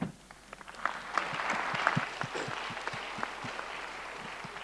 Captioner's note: audience applauding